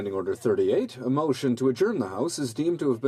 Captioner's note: speaking in french